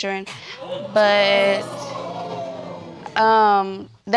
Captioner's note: audience exclaiming